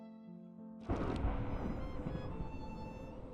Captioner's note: thunder